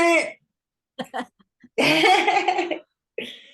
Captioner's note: laughing